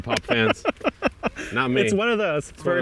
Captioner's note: laughing